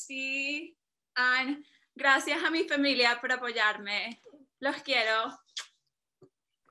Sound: speaking in foreign language

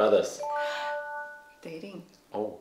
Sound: chimes

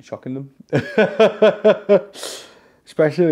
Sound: laughs

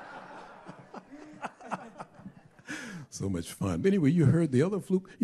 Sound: laughter

